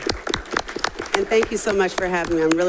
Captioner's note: applause